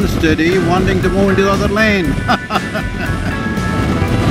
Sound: laughs

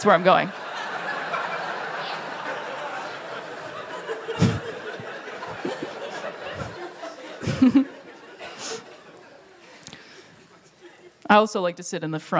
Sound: laughter

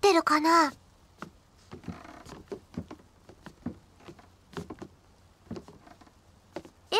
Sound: sound of steps

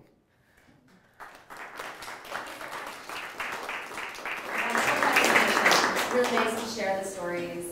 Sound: audience applause

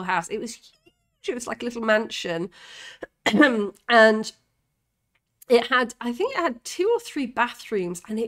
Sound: cough

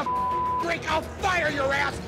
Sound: beep

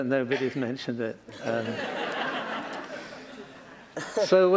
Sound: laughter

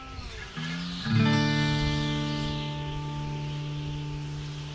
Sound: folksy guitar music; wind whistling

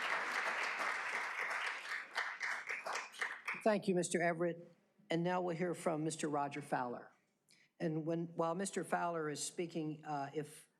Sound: applause

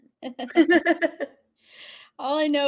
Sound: laughing

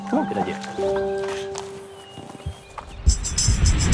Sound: leaves crunching; upbeat music

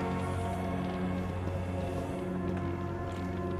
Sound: footsteps

